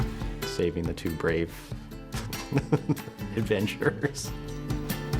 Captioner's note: laughter